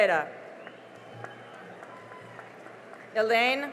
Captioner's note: cheering and applause